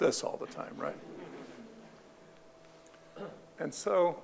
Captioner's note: audience laughing